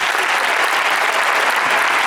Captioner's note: applause